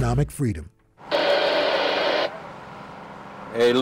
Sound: radio static

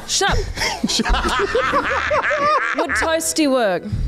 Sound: laughs

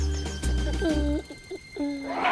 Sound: humming

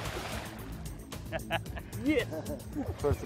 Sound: laughing

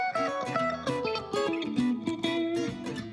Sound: none

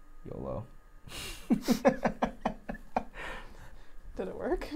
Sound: laughing

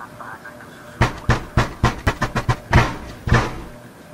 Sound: loud banging on the door

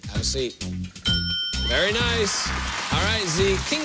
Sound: ding

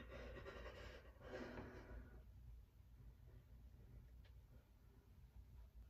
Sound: heavy breathing, faint sobbing

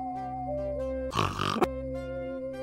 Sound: spy snort

